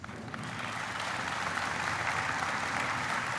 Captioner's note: applauding